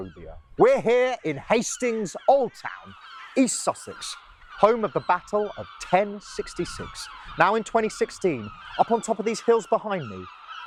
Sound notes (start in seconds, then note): none